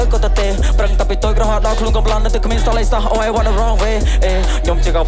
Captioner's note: ehh